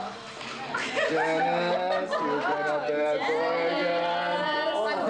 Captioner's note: crowd chattering